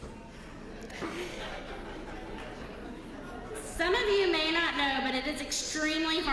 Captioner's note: laugh